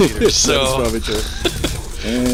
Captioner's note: laughing